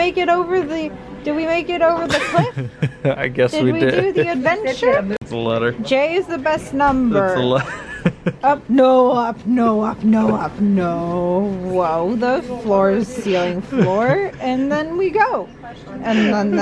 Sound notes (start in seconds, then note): 2.0 laughs; 7.3 laughs